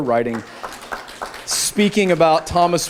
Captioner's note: applause